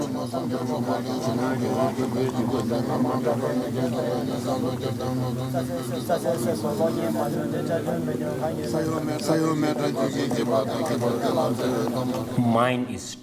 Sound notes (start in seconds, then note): 0.2 singing; 6.7 foreign Language